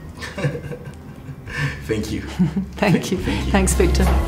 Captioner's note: chuckling